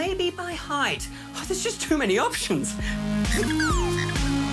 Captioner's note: toy beeps